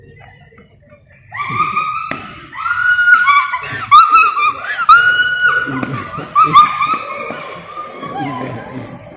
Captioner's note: laughing